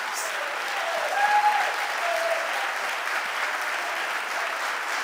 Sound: audience applauding

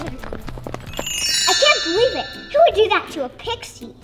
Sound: bells tinkle

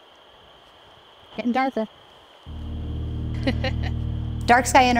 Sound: laughs

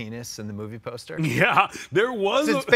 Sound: laughs

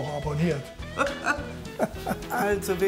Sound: laughter

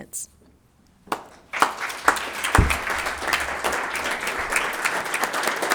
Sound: attendees applauding

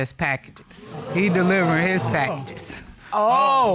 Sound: audience exclaiming

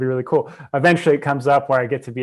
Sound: breath

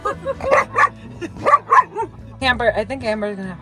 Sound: Camper barking

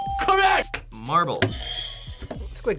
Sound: buzzer rings

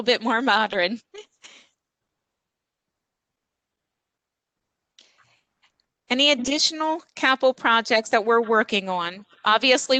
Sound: laughter

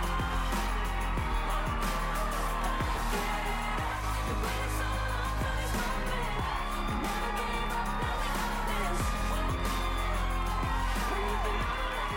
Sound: cheers and applause

